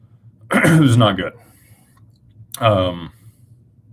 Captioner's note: clears throat